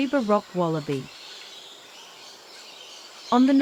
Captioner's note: birds chirping